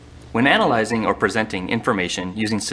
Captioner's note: voiceover